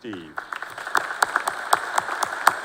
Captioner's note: applause